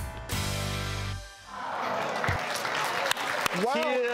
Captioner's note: audience clapping